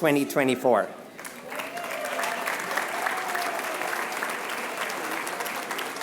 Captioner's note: applause